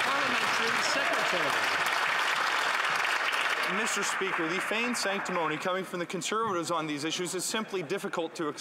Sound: some Applause

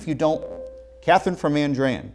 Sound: beeping

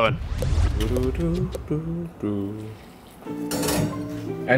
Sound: man humming

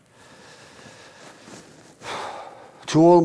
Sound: taking a deep breath

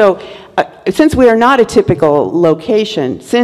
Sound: none

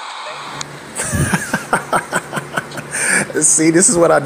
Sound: laughing

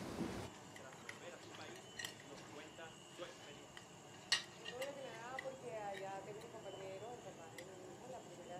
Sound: TV News broadcasting

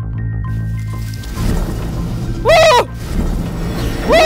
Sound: sliding

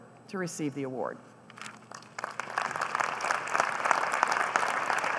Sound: applause

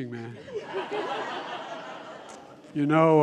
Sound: laughter

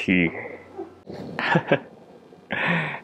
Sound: chuckles

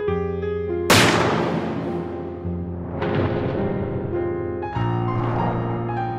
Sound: gunshot Sound

